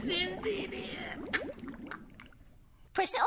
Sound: bubbling water sound

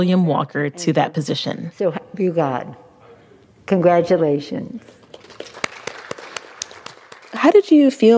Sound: applause

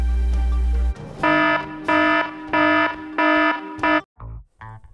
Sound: alarm

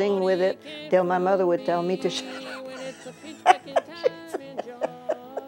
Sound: laughs

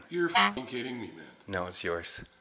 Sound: honking

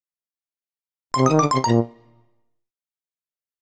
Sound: sound of game over tone

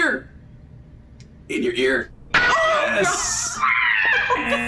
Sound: laughs

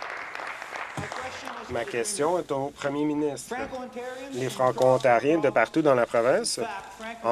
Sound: applause

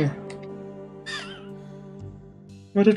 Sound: wheezing laugh

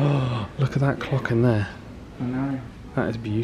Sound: gasps

